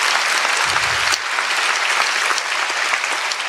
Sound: applause

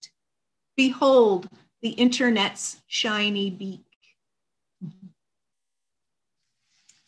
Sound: chuckles

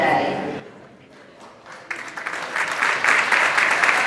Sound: applause

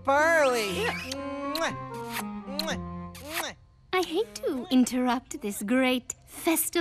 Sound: kissing

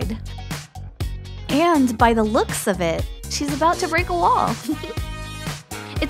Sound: chuckle

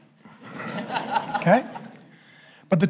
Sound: congregation laughing

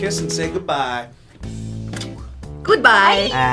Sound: lips smack

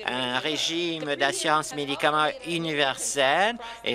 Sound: applause

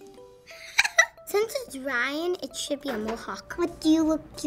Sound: giggles

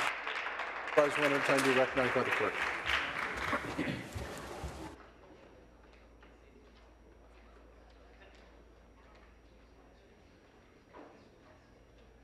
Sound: applause

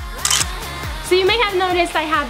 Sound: camera clicking

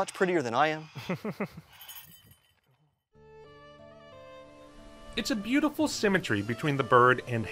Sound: chuckling

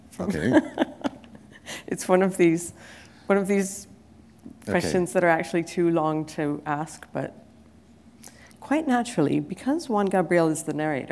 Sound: chuckle

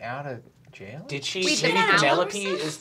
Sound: group talking

